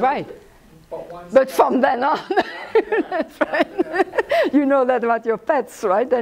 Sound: laughs

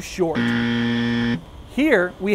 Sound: buzzer

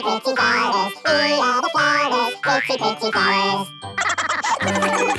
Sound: laughter

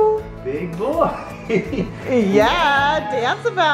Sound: laughs

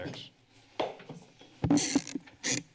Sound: taps gavel

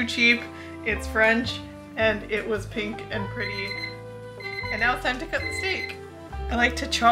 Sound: timer goes off

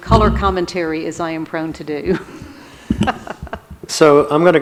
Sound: laughs

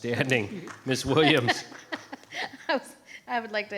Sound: laughs

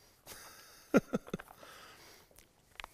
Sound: laughs

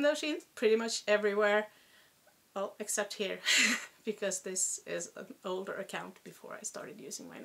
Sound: chuckle

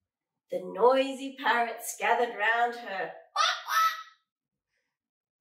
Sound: squawk squawk

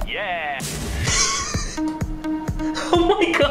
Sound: chuckles

